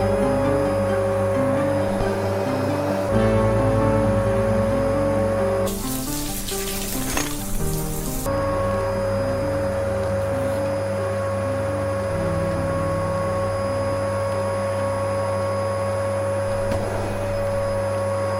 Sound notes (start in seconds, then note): 0.0 vacuum humming; 5.6 water splashing; 5.8 vacuum humming